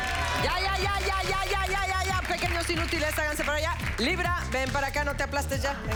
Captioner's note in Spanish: Aplausos